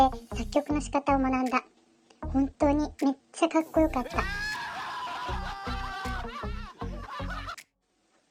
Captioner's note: screams from embarrassment